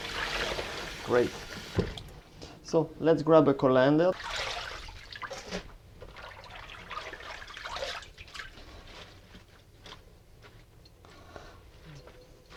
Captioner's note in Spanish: sonido salpicando